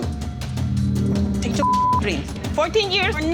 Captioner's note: beep